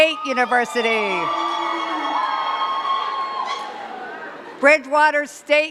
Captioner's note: cheers and claps